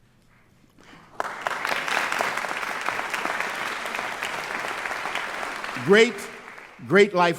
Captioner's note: applause